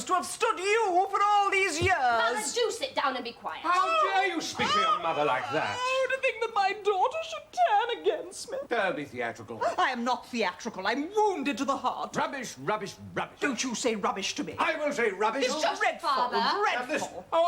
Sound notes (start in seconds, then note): 4.5 JUDITH wails